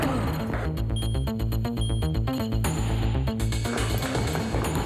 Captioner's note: elevator beeps